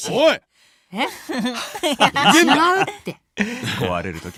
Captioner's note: laughing